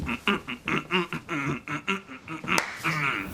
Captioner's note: David Brent grunting sounds